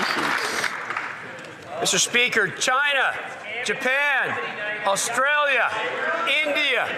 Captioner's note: some Applause